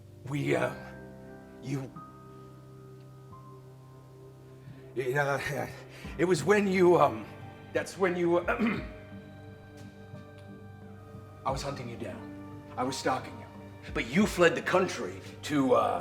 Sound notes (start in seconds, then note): 8.5 clears throat